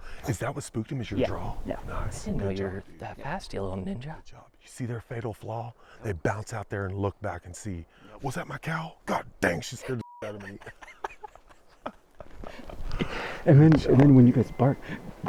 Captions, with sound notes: Whoa! Is that what spooked him is your draw? Yeah Nice I didn’t know you were that fast, you little ninja. Good job. You see their fatal flaw? They bounce out there and look back and see. Was that my cow?! God dang, she scared the **** out of me! (laughing) And then when you guys bark,